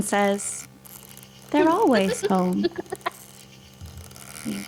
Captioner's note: child laughter